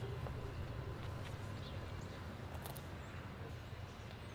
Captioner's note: footsteps softly tapping